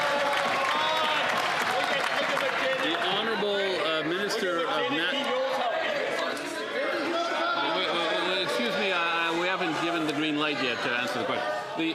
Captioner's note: some Applause